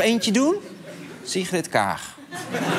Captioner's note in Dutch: gelach